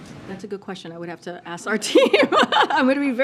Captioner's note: laughter